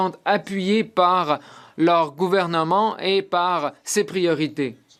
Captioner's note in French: voix de l'interprète